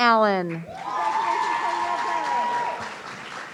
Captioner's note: audience cheering